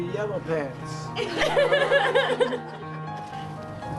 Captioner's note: laughing